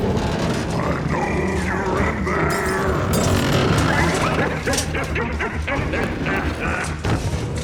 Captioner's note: cackles